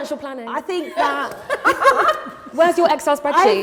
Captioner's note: laughter